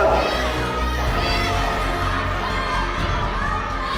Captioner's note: Anya groans